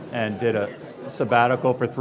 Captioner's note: laughing